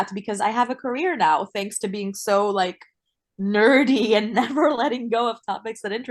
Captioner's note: laughs